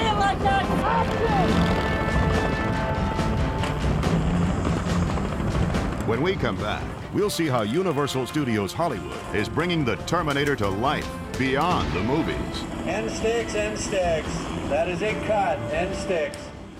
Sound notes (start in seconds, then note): 0.9 engine roaring; 3.6 upbeat music